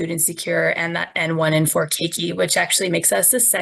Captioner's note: speaking in foreign language